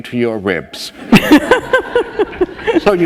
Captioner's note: laughter